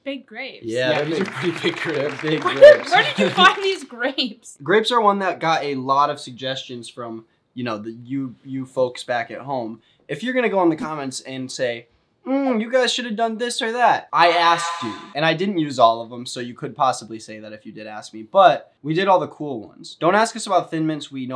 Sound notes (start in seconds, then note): 3.6 laughs